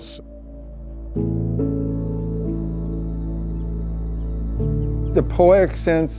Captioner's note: pensive music; birds tweeting